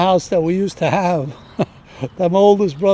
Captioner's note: laughs